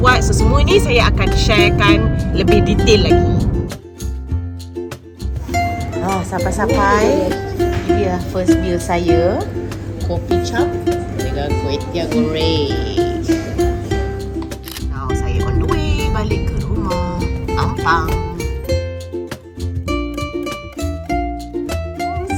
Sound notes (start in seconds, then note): 4.1 background music; 14.6 camera snap; 19.3 background music